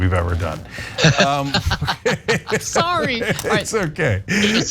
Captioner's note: laugh